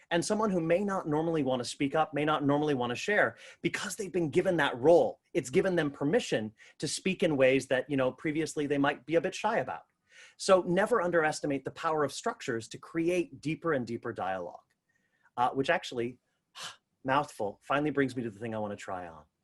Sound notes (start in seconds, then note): 14.8 exhales